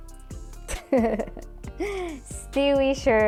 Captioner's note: laughs